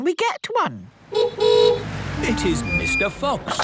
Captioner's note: horn honking